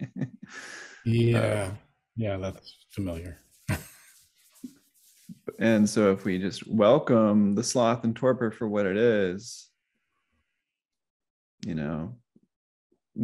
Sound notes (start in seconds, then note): 3.6 chuckles